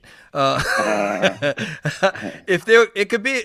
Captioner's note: all giggling